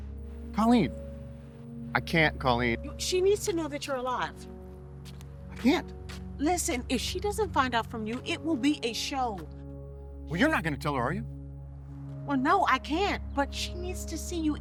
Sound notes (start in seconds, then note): none